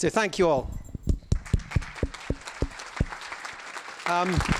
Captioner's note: applause